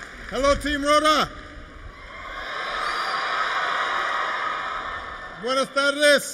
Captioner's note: applause